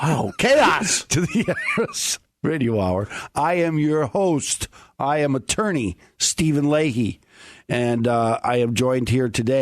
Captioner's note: laughing